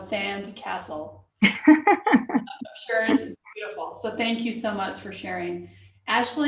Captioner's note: laughter